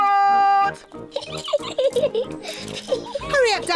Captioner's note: giggling